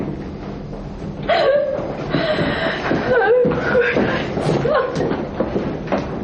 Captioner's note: woman crying